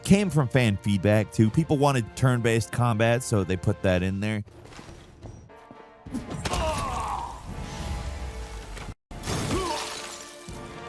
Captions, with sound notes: came from fan feedback too. People wanted turn based combat so they put that in there. (dramatic music) (person groaning)